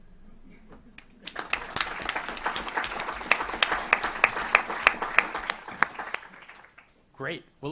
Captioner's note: applause